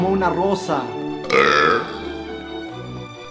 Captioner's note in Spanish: eructo